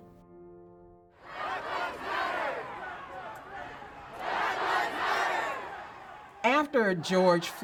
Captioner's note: Crowd changing Black Lives Matter